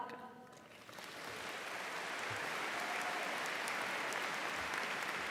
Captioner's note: audience applauding